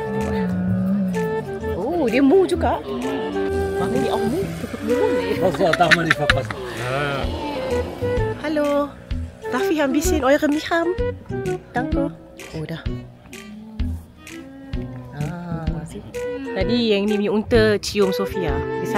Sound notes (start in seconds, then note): 3.8 speaking German